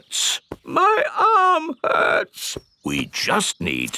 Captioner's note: in teddy's voice; in normal voice